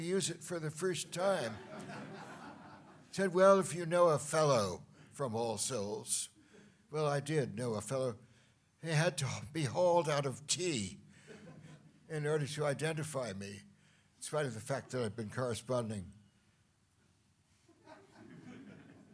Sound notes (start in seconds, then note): 1.5 laughter